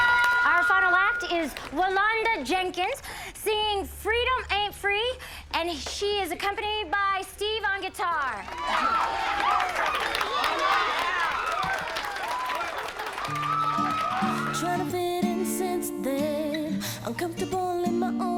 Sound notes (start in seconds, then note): 8.1 audience applauding; 8.2 audience cheering